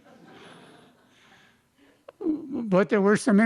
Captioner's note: laughter